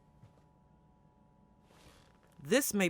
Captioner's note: chair shifting